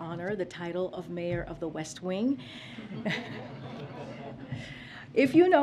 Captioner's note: laughter